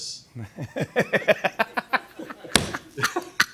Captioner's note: both laugh